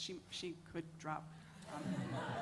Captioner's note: laughter